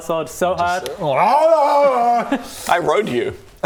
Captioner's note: ahhragghrgrgaagrghhh